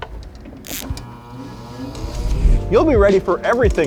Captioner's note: machine whirring